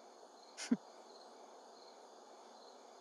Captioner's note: Chuckles